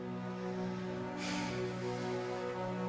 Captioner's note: sighs